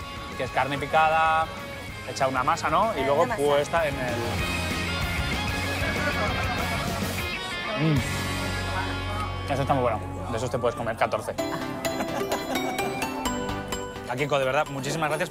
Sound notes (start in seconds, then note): 11.4 laughs